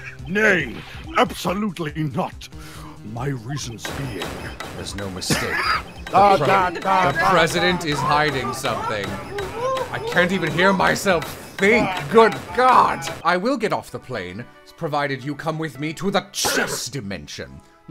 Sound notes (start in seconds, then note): 6.0 loud hinge sounds